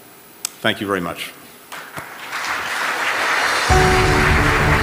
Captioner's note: applause